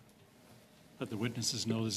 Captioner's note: speaking French